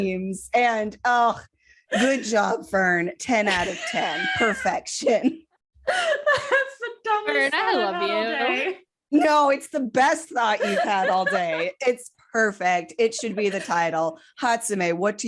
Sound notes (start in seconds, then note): 1.7 wheezing